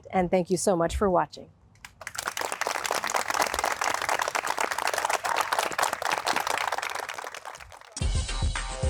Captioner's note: applause; upbeat music